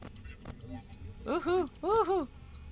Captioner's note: surprised noises